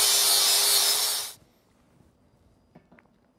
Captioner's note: silence